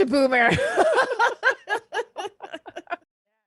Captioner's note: both laugh